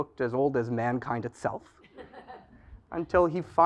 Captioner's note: laugh